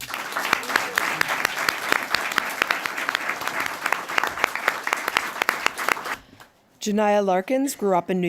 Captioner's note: applause